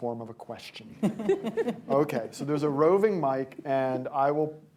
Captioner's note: laughter